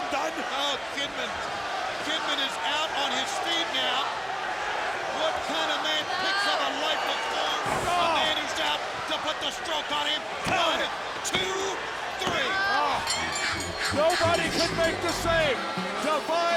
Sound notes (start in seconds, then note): 13.0 bell rings